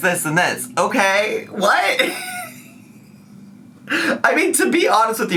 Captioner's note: laughs